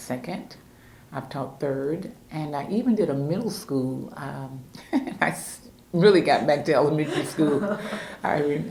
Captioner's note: laughs